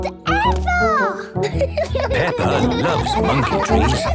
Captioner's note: laughing